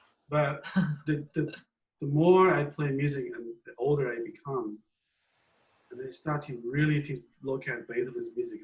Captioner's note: laughs